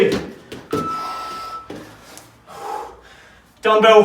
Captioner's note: exhales sharply